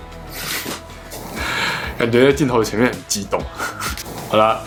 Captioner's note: laughs